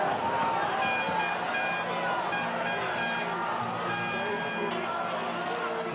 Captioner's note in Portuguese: buzinadas